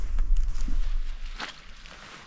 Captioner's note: squelch